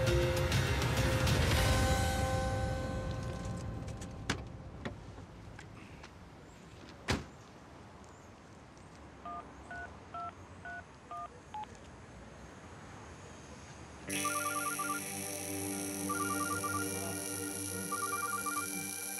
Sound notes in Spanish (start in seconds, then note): 7.0 sonido al cerrar la puerta; 9.2 sonido al marcar; 14.1 suena el celular